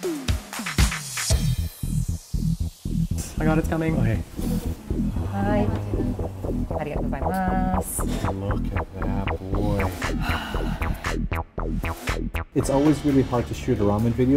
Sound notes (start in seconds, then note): 4.1 breathing heavily; 10.0 sighs